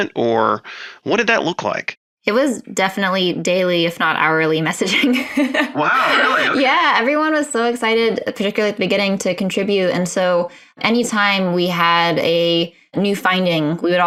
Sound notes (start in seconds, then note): 4.9 laughs